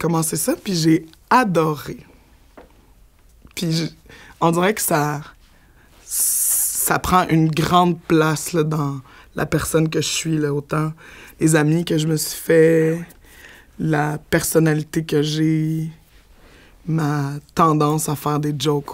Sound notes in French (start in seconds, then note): none